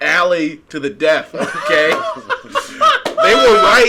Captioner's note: laughing